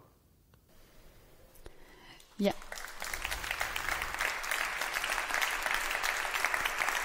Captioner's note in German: Beifall